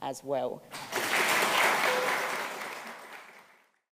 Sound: applause

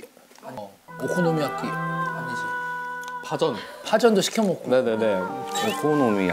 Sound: foreign language coming out again

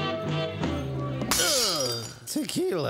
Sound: glass breaks

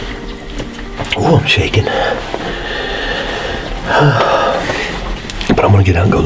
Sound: sigh

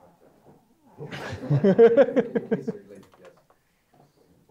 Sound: laughing

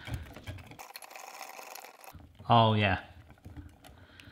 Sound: whisking

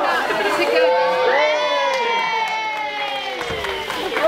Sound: cheering; all laugh

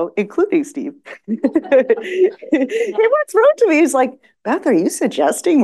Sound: laughs

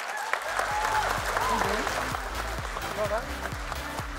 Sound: applause and music

